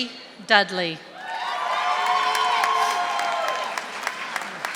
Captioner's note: audience applauding